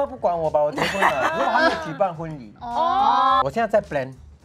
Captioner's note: ohhh